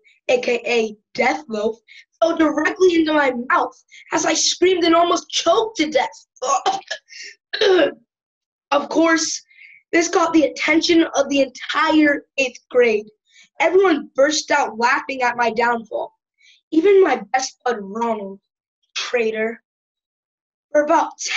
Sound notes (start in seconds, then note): 6.4 gagging